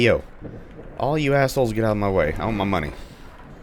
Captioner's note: thunder